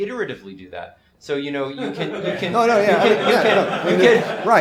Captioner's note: laughter